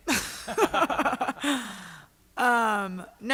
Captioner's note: laughter